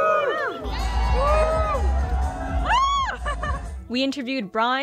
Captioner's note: crowd; crowd cheering